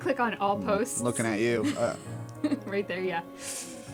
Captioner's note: laugh